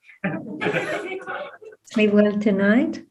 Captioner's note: indistinct chatter and laughter